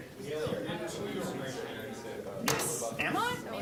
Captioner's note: general chatter